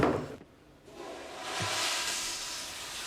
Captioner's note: toilet flushing